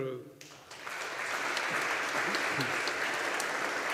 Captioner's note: audience applauding